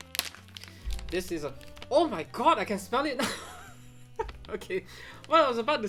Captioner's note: wrapper crinkles; chuckles